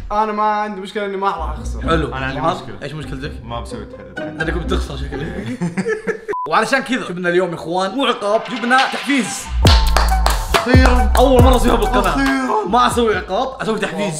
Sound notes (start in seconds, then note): 5.0 laughing; 9.7 clapping